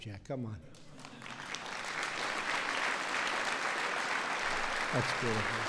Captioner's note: applause